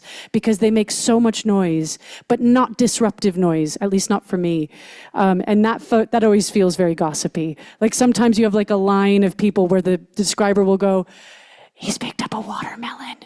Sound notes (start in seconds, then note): none